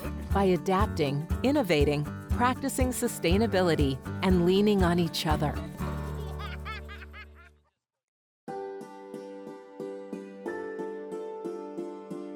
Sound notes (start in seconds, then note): 6.0 child laughing; 8.5 mellow orchestral music